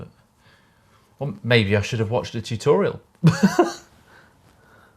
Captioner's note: laughing